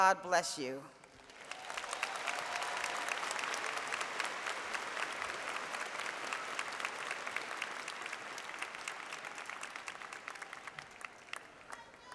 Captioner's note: applause